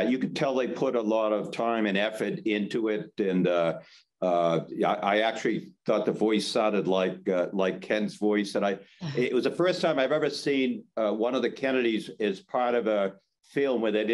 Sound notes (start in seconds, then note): 9.0 laughs